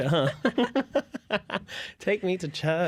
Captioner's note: laughter